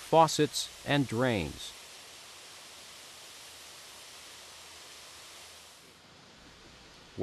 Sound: water running

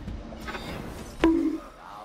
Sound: bonk Sound effect

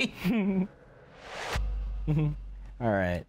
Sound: laughs

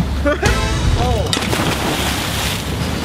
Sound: water splashing

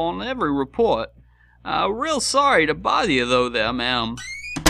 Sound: door creaks

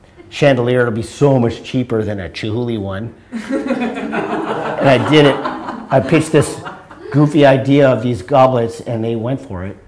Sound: audience laughter

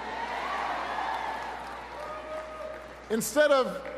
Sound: cheering and applause

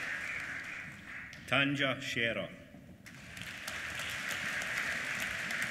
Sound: applause

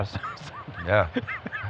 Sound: laughing

